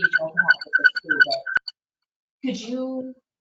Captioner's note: feedback distorting voice